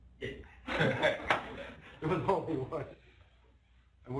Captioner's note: laughter